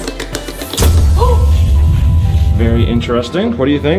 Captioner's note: suspenseful music; gasps